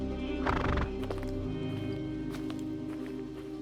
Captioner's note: horse blows